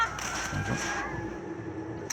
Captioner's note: sounds of composure and shooting